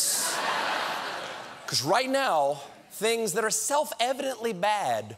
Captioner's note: laughter